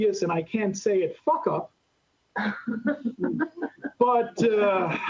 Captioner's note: laughter